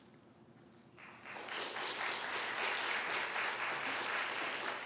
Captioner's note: applause